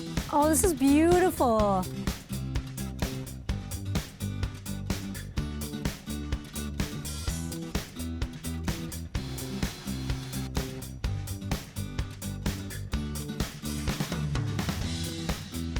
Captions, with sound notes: - Oh, this is beautiful. (bright music) (blender whirring)